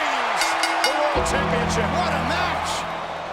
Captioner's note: bell rings